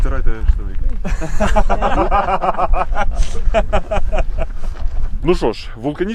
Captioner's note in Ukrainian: всі ржуть